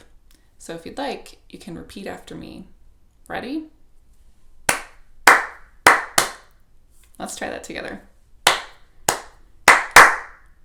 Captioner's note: clapping